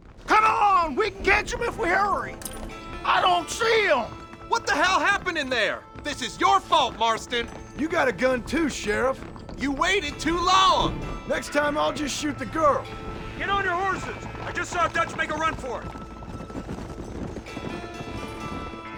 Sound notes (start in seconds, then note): none